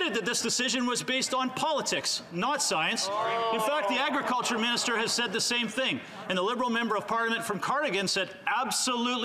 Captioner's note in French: voix de l'interprète